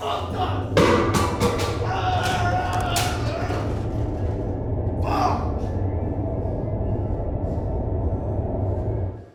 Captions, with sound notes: - It's fucked up! (Wallace screaming in rage) Fuck!